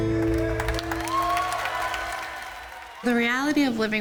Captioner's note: audience applauding